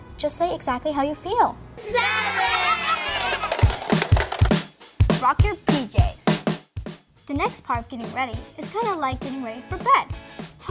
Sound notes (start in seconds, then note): 2.2 laughter; 3.4 drum beat